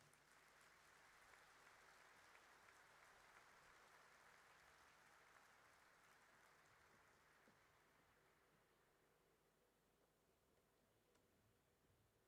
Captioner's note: applause